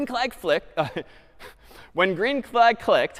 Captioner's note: laughs